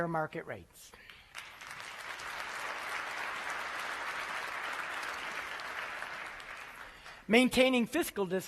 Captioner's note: applause